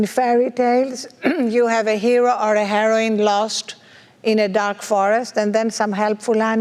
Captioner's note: cough